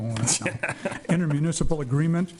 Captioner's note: laughing